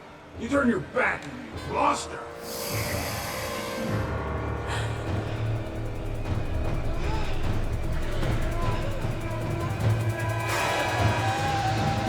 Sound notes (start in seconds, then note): 2.8 ghoul growls; 4.6 dark ominous music; 8.1 Bryn wailing